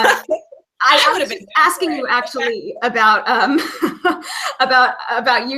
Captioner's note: laughing; laughing